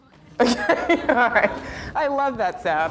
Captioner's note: laughs